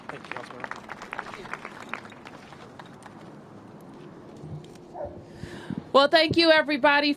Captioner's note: applause